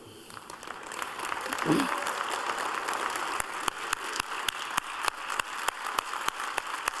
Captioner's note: applause